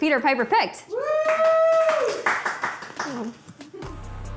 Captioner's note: crew members cheer and applaud; dramatic music